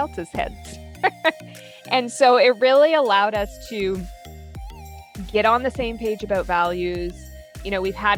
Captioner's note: laughs